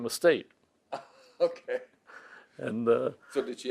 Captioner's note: laughs